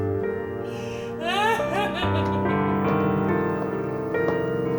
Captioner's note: sobbing